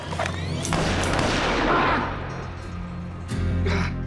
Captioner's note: gunshot fired, mr. gates groans